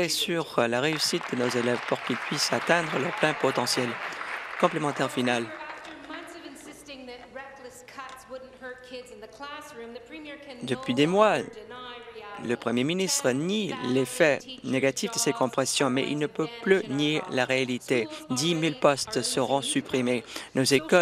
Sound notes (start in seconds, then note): 6.3 applause